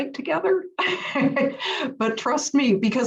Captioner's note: laugh